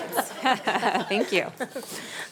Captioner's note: everyone laughing